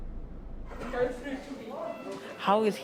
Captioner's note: indistinct chatter